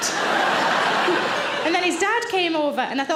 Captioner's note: audience laughs